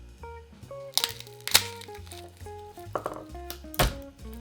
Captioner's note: garlic paper peeling